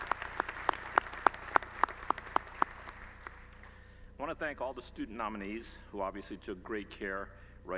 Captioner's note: applause